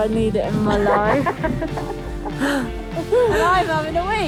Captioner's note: all laughing